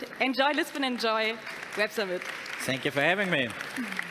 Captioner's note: audience applauding